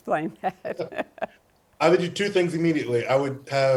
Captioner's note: laughing